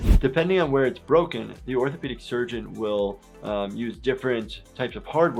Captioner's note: none